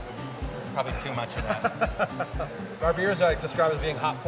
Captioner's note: laughing